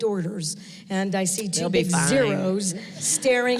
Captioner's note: laughs